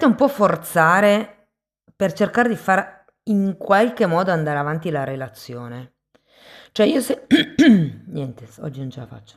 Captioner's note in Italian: schiarire la voce